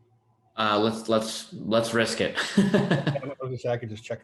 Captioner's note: chuckling